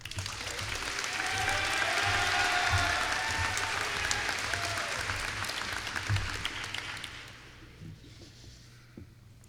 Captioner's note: applause